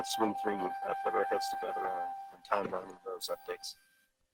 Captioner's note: speaks faintly